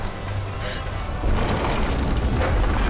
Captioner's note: gasps